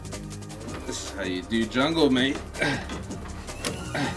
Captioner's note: British accent